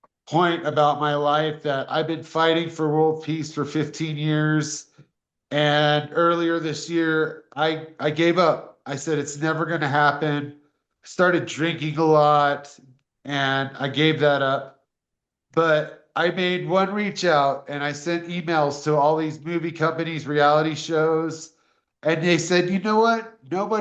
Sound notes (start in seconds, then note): none